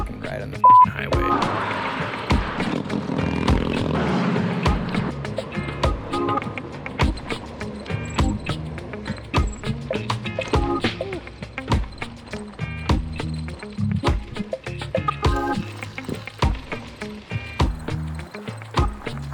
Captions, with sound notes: and ride on the (beeps) highway. (car whirring) (motorcycle buzzing) (truck whirring) (funky music) (bike squeaking)